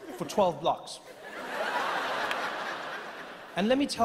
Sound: laughing continues

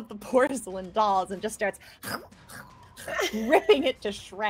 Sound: chomps

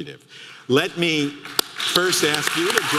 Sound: audience clapping

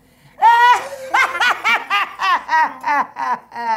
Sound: cackling

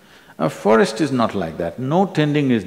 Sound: none

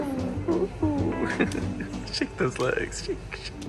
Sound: laughs

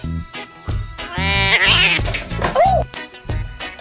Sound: oriental Cat Yowl

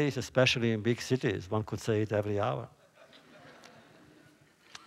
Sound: laughter

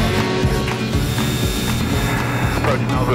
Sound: country music continues; plane engine buzzing

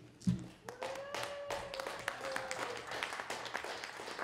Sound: audience applauding

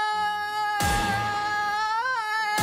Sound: Tony Hawk Stunt FX

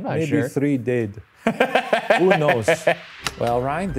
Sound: laughs

